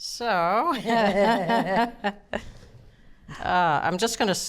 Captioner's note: both laughing